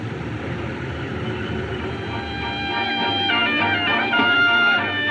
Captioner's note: crowd Chattering